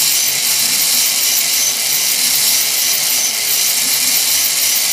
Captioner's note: motor straining